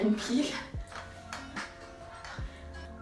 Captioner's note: laughs